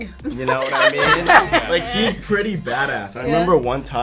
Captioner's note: all laughing